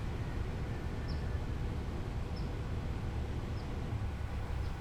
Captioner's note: wind rustling; birds chirping